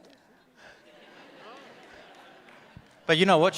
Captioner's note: audience laughs